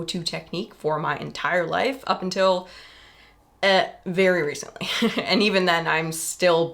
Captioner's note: laughs